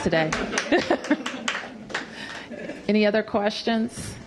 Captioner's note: applause; laughter